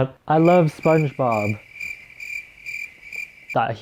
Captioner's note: crickets chirping